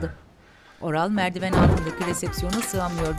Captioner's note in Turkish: Çarpma sesi